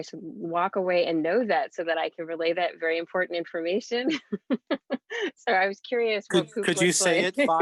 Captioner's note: laughs